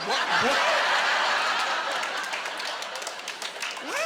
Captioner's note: laughing